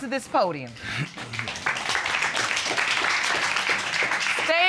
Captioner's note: audience applauds